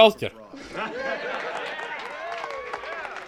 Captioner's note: cheering and applause